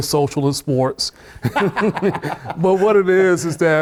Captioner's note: laughter